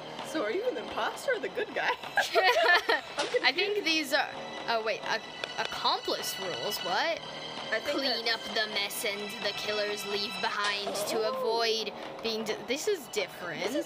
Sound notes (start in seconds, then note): 2.1 laughter from both of us